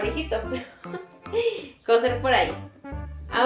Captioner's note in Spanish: risa